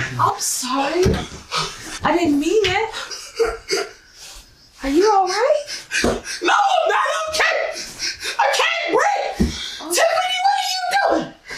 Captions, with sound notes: I'm sorry. I didn't mean it. (Gasp, gasp) Are you alright? No, I'm not okay. I can't breathe. Tiffany, what are you doing?